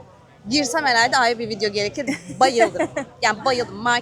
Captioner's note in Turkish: kahkaha